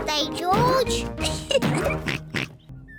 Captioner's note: laughs; oinks